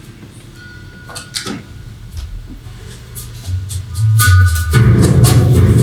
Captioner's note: car pulls away